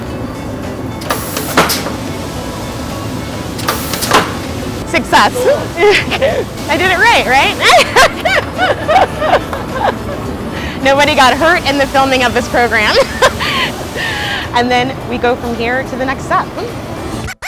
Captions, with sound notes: (machine bangs) (machine bangs) Success! I did it right, right? (laughs) Nobody got hurt in the filming of this program. And then, we go from here to the next step.